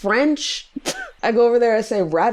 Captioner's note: laughs